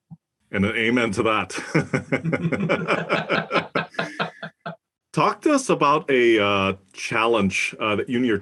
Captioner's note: laugh